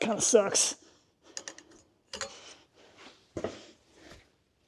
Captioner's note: tools clinking